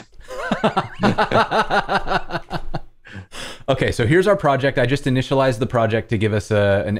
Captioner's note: laughter